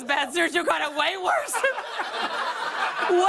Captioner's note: laughter